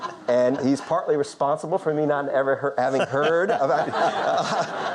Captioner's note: audience laughter; Lord King laughing; audience laughing